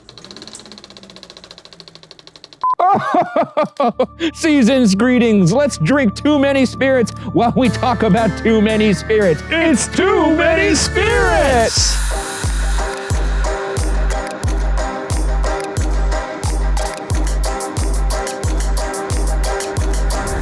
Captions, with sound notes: (film reel clicks) (beep) - (laughs) Seasons greetings. Let's drink too many spirits while we talk about too many spirits. - It's "Too Many Spirits." (upbeat music)